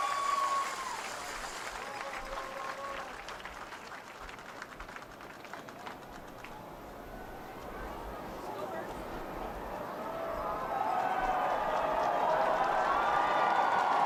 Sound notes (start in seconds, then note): 3.1 cheers and Applause